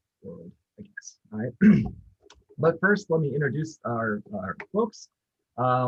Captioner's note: clears throat